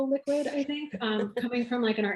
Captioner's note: laughs